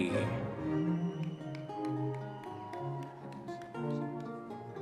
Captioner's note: audience members cheering